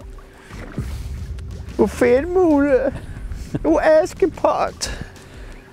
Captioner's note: attempting to sound like a Danish person